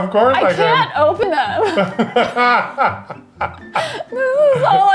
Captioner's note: laughing